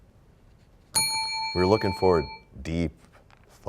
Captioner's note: bell rings, time expires